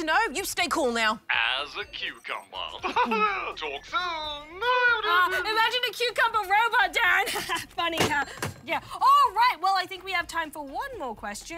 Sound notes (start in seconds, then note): 2.7 chuckles; 7.1 laughs